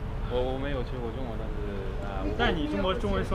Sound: mandarin

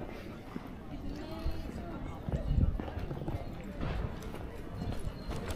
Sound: people chattering

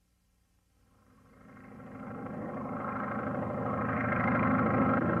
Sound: biplane propeller noises

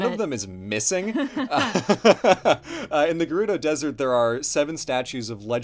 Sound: laughs

